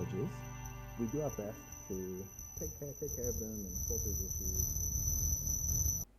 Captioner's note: audio grows muffled as high pitch ringing grows